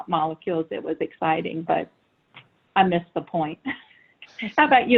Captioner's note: chuckles